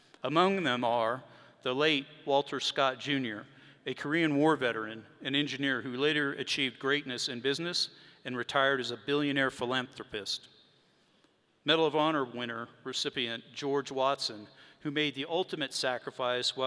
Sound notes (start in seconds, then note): none